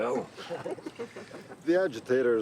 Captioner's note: Rene and woman laugh